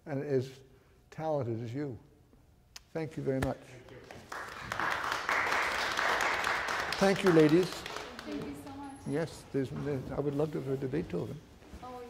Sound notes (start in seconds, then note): 3.8 audience applauding